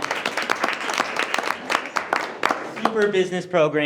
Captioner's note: board applauding